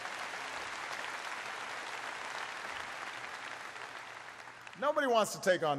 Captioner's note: applause